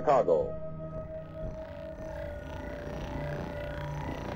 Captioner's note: buzzing